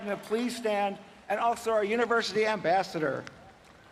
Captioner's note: applause